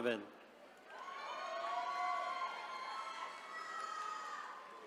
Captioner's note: attendees cheering